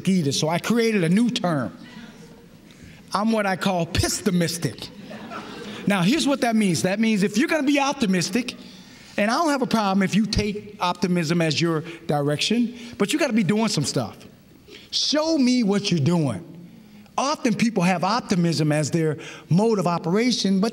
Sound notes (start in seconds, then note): 4.9 laughter